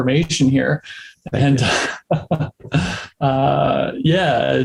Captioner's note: men laugh